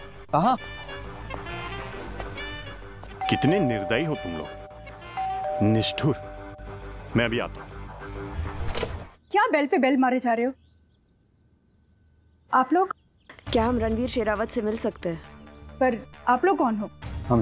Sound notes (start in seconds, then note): 5.1 doorbell ringing; 8.6 door opens